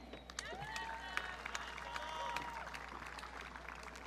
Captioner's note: audience cheering